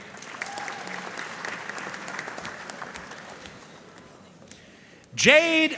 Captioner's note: audience cheering and applauding